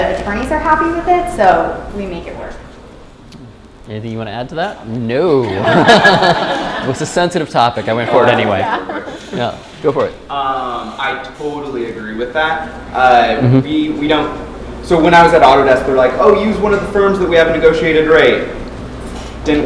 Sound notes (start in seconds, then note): 5.4 laughter